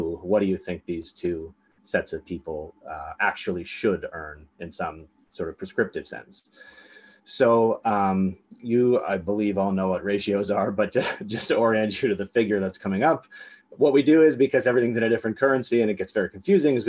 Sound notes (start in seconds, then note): 10.9 laughs